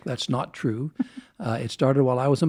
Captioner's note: laughs